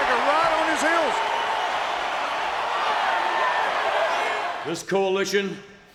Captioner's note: crowd cheering